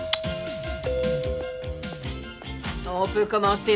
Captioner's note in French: Ding Dong